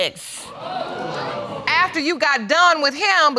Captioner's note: audience exclaims